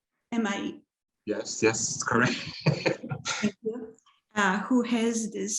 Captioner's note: laughs